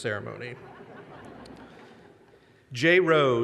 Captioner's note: audience laughter